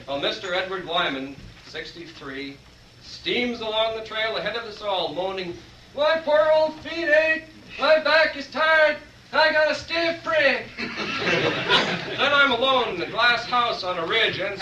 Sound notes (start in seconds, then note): 10.7 laughter